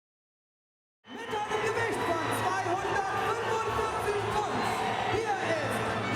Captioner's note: announcer speaks foreign language